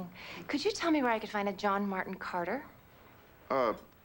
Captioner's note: none